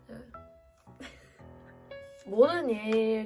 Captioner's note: hahahahahahahahaha; hehehehehe